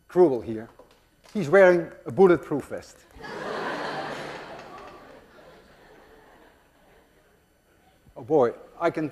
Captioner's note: class laughs